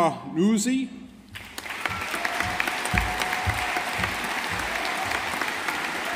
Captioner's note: audience applauding